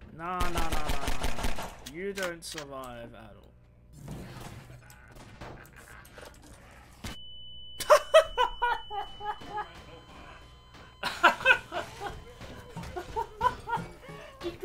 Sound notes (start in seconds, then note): 4.5 Father Grigori laughs maniacally outside; 7.8 loud laughter